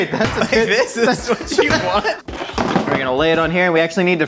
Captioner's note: both laughing